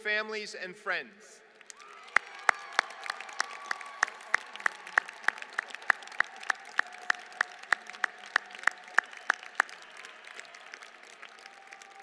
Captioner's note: applause